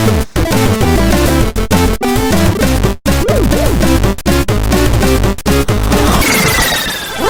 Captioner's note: none